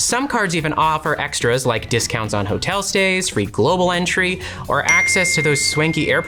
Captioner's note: phone dings again